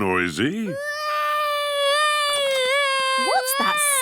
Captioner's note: baby wailing